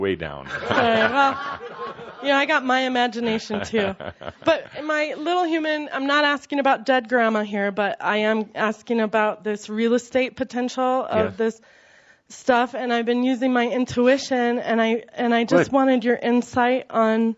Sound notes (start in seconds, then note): 0.0 lots of laughter; 0.4 more laughter